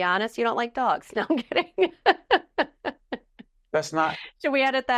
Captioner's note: laughing